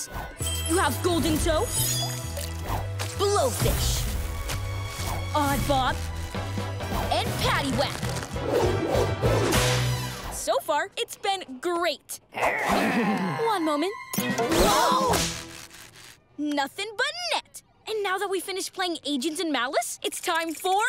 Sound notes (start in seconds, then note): 12.3 growling